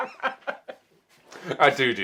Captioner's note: both laughing